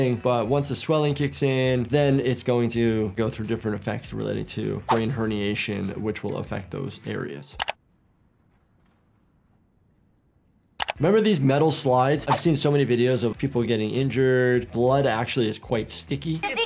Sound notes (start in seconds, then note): 7.7 mouse clicks